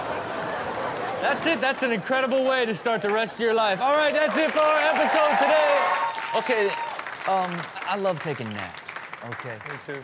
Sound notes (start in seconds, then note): 5.8 audience cheers